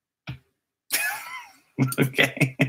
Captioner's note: laugh